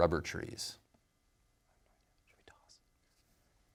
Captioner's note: whispering